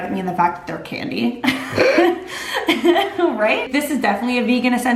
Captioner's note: laughing